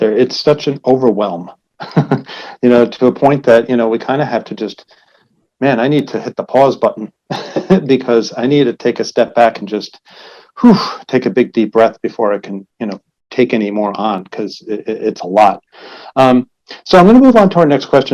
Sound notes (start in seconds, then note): 1.8 laughs; 7.3 laughs; 10.0 breathes out